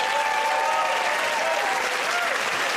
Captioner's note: cheers and applause